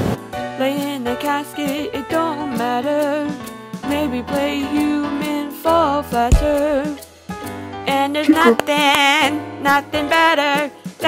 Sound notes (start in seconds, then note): 6.3 smack